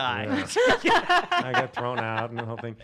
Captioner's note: laughing